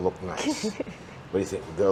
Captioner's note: laughs